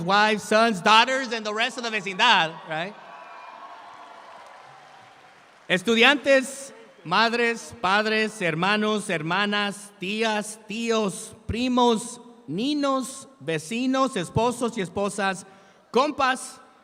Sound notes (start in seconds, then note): 1.8 speaks in Spanish; 5.8 speaking in Spanish